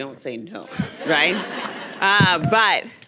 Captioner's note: audience laughing